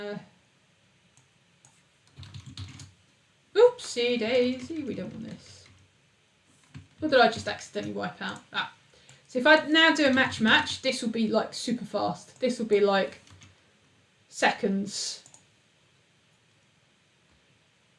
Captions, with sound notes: (keyboard clicks) Oopsie Daisy, we don't want this. What did I just accidentally wipe out? So, if I now do a match, match, this will be like super fast, this will be like seconds.